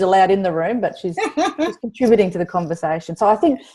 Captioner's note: laughs